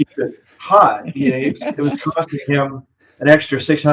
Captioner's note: laughing